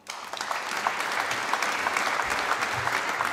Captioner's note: applause